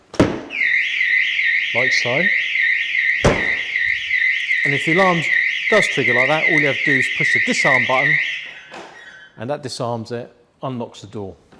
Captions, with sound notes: (alarm goes off) like so and if the alarm does trigger like that all you have to do is push the disarm button (beep) and that disarms it - unlocks the door